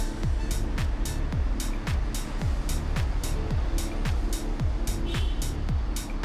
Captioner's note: car honks